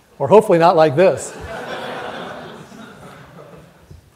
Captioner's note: audience laughs